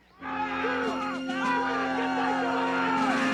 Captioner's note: violent yelling